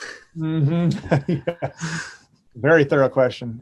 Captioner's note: chuckles